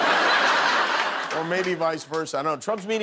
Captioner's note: laughter